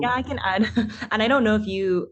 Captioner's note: chuckles